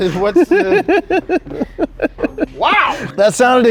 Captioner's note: laughing